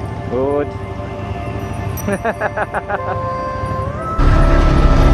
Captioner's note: laugh